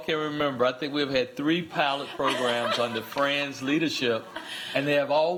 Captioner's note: laughter